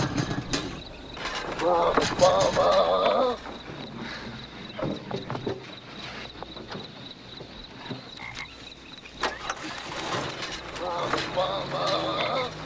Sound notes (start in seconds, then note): 9.2 car starting